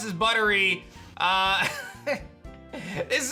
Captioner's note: chuckles